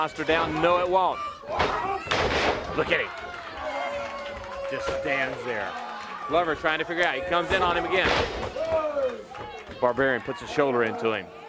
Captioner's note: crowd chatter